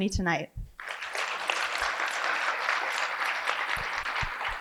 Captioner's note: applause